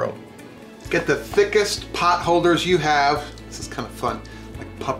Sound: soft thumping

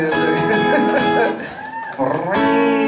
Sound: light laughter

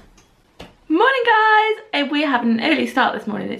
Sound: pancake flipping

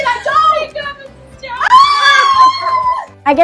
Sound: both screaming

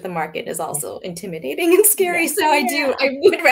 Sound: laughing

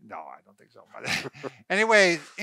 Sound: both chuckle

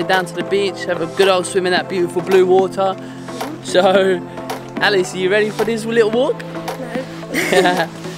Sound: both laugh

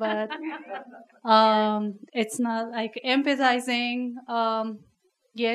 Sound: workshop laughs

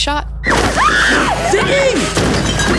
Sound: Ziggy screaming

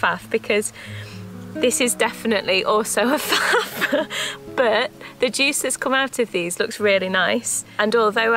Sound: laughs

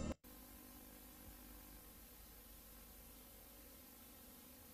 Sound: VHS static

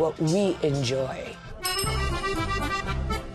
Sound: bell dings

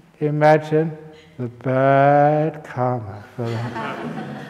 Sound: laughter

